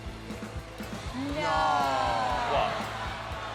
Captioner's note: cheering